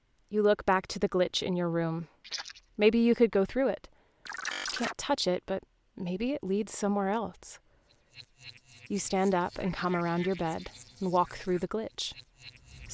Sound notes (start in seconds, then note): 4.3 glitch noise; 7.9 glitch sounds; 11.3 intense echoing whispers, screams, and glitches